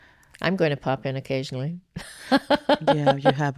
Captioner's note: laughs